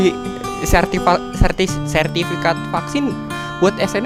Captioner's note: stuttering